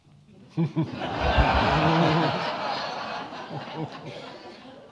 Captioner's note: all laughing